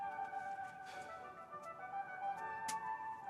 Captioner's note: blowing